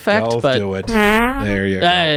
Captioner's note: farting